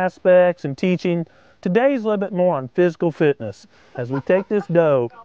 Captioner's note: laughter